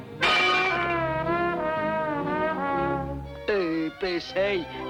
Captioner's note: bottle shatters